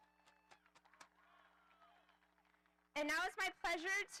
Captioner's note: audience applauding